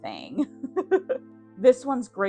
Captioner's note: giggle